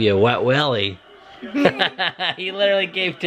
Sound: laughs

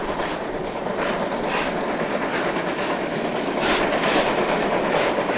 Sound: LOUD chugging from OY

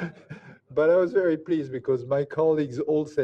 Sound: laughs

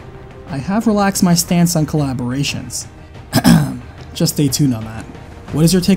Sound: cough

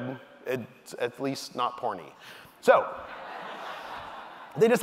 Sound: audience laughing

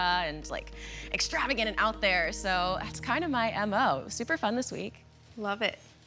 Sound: none

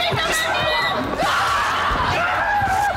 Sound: screaming, clamoring; screaming; thudding

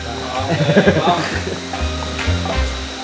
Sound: laughs

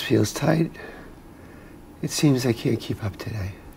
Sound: breathes heavily

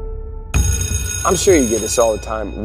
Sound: sustained piano note; bell ringing

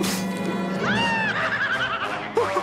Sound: scary laughter

